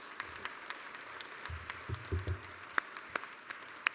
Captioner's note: applause